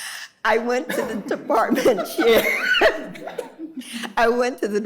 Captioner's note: laughing